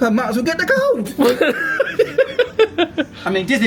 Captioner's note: laughs